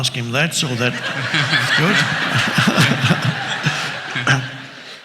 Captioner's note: all laughs